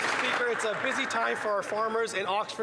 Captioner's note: applause